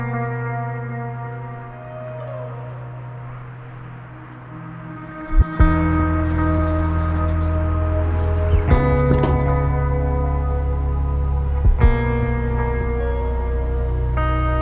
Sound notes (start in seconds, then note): 2.5 cars driving on highway; 8.1 elevator door opens